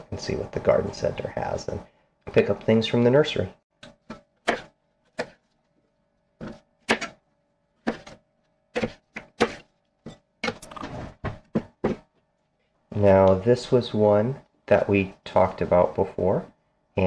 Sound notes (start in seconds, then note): 3.6 knife cutting